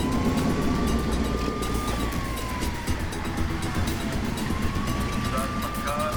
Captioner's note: sirens